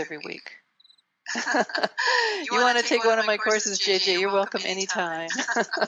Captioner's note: laughter